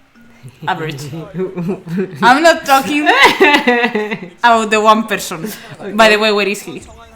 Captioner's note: laughs